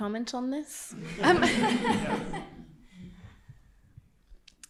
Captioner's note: all laughing